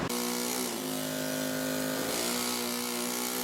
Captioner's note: tool whirs